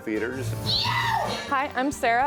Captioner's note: artist screams